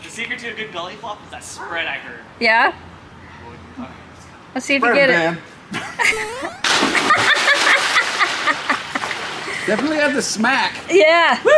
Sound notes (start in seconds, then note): 5.7 laughter